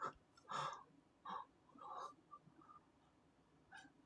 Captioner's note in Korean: 헉 소리